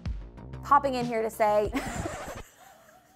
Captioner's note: record scratches; laughs